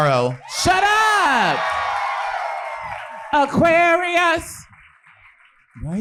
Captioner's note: audience cheering